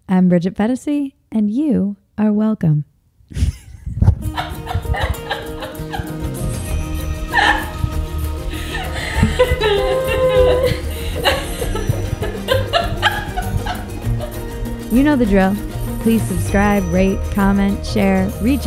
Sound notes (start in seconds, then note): 3.4 laughing; 5.3 bright music